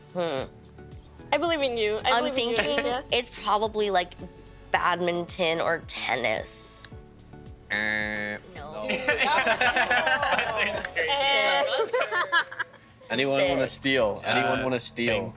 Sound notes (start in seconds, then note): 7.6 imitating buzzer; 8.8 others laughing